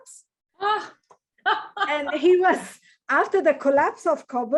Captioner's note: laughs